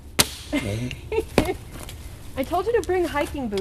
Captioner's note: branch cracks; laughs